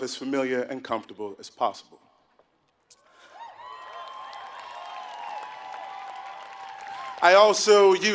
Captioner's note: applause